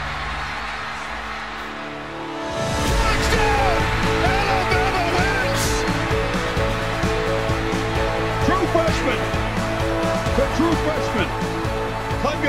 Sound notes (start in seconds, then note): 0.1 crowd cheers; 5.5 crowd cheers; 6.6 inspiration instrumental music